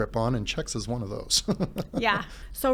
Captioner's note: snickers